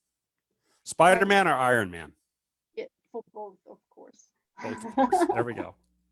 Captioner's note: chuckles